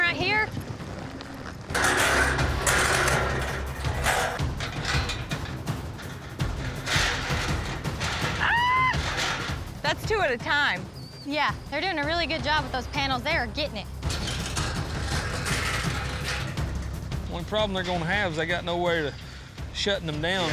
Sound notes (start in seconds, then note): 1.6 metal clanging